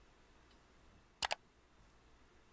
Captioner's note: click!